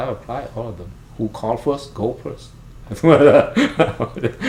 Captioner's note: laughs